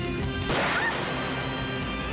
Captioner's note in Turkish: Kurşun sesi